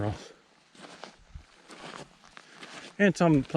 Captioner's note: footsteps thumping